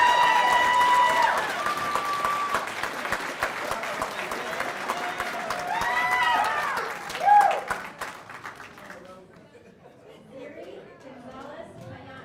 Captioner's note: cheers and applause